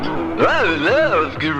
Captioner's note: stammering